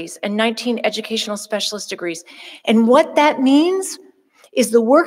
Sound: none

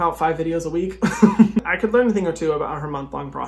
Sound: laughs

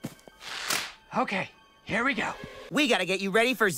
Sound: snapping noise

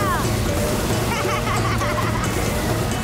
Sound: laughing

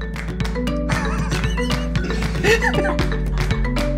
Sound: laughing

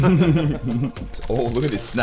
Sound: laughing

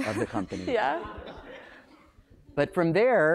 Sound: laughing

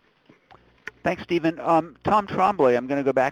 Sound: voiceover

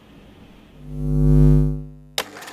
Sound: bulb buzzing; machine whirring

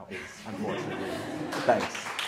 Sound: audience laughter

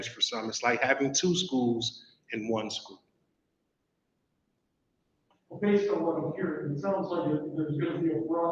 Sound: none

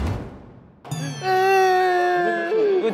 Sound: crying..ㅠㅠ

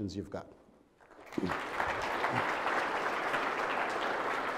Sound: audience clapping

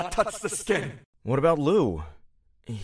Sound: In Andy’s voice

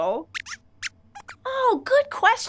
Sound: squeaks

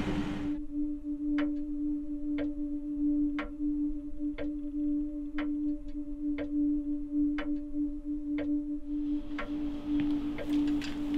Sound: clock ticking

